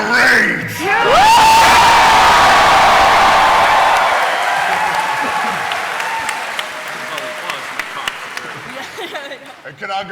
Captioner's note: cheering